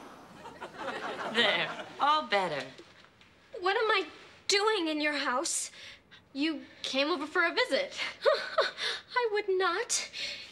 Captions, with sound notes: (audience laughing) - There, all better. - What am I doing in your house? - You came over for a visit. (Libby laughing) - I would not.